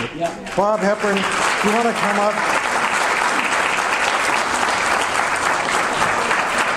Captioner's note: audience applause